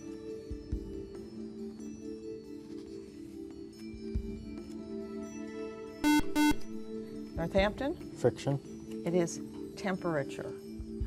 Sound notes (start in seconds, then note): 6.0 buzzer